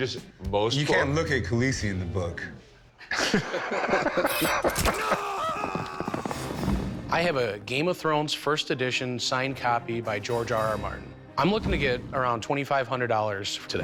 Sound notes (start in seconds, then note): 3.0 both laughing